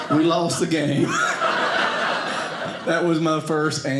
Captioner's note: audience laughing